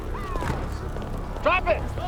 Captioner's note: siren blaring in the distance